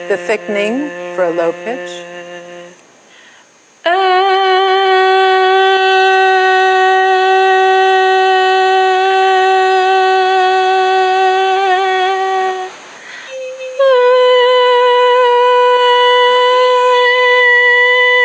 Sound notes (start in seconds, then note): 3.6 medium pitched sound